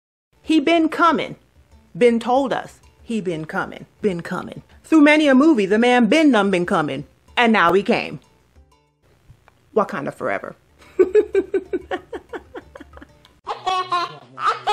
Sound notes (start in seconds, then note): 10.8 laughter